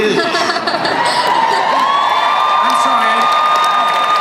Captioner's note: crowd cheering